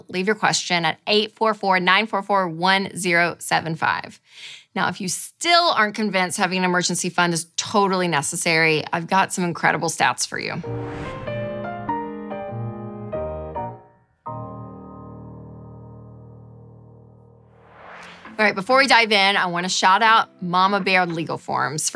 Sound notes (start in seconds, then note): 10.8 piano music; 17.4 whooshing; 17.7 calm music